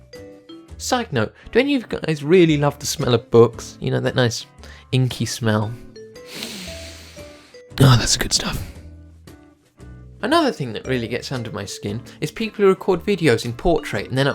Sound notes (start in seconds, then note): 6.2 sniffs